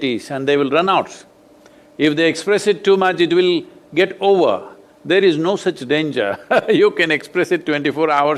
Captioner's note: laughs